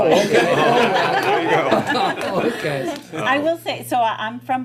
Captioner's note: laughter